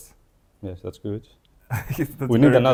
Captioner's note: laughs